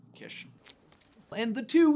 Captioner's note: splurts